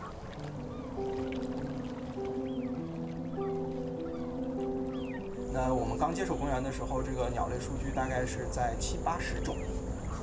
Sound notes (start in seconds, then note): 3.2 speaking Chinese